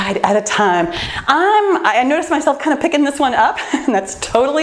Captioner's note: laughs